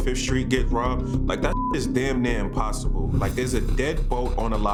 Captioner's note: beeps